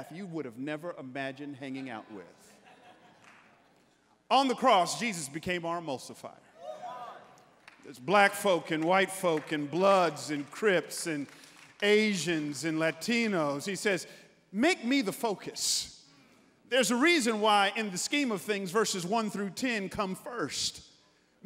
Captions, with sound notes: you would've never imagined hanging out with. (congregants laughing) On the cross, Jesus became our emulsifier. (congregants cheering) There's black folk and white folk and Bloods and Crips and Asians and Latinos. He says, make me the focus. There's a reason why in the scheme of things versus one through 10 come first.